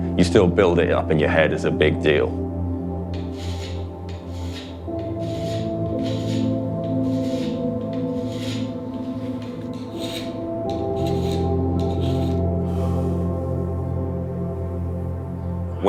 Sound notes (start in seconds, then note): 6.1 scraping of a file on metal; 9.8 gentle, atmospheric notes